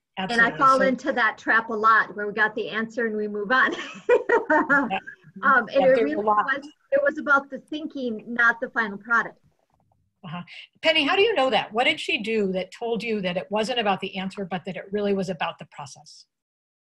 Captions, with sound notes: And I fall into that trap a lot, where we got the answer and we move on. (laughs) And it really was, it was about the thinking, not the final product. - Penny, how do you know that? What did she do that told you that it wasn't about the answer, but that it really was about the process?